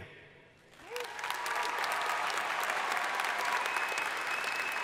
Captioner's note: crowd applauding